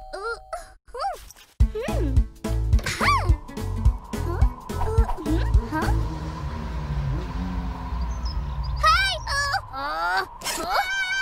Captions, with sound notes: (DOOR OPENS) HRWRWRWRWRWR! (UNZIPS)